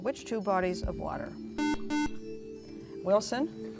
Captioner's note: beep